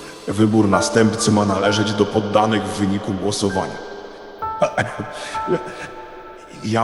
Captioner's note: coughing